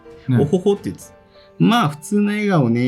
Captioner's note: laughs